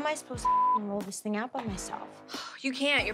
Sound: beep

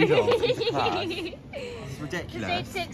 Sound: laughter

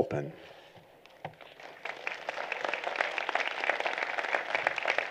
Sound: applause

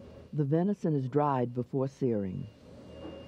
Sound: voiceover

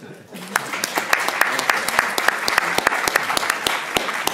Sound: audience clapping

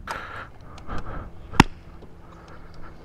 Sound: clap!

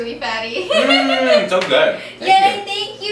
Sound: laughs

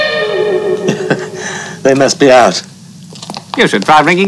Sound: jazz music; chuckles

